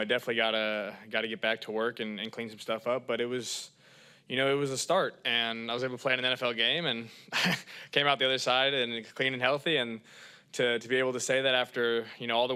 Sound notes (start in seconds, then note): 7.3 laughs